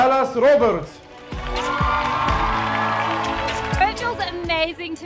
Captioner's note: audience cheering